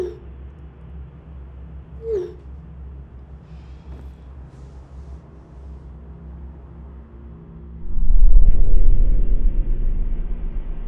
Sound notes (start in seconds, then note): 2.0 sighs; 7.6 ominous music